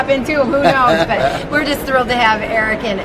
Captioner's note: laughs